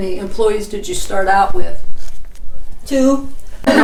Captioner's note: laughing